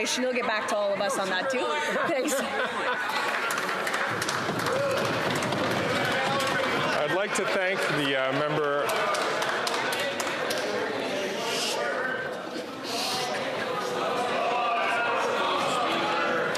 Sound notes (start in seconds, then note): 8.2 applause